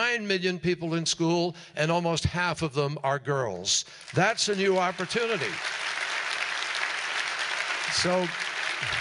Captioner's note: applause